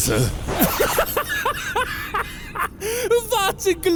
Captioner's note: hysterical laugh